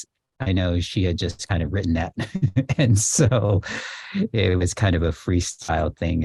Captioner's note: laughs